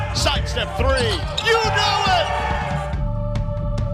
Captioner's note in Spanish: vítores del público